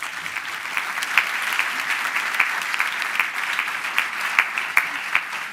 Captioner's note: applause